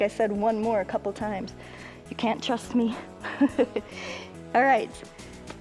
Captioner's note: laughs